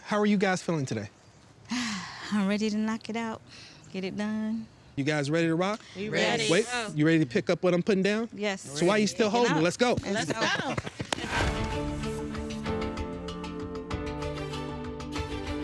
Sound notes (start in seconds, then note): 11.2 all applauding; 11.5 gentle music